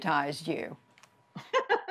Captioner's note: laughter